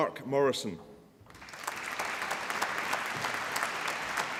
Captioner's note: applause